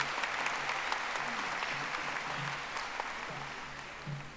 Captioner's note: audience applauding